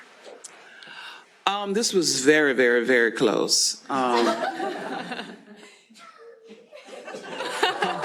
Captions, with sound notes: This was very, very, very close. [LAUGHTER]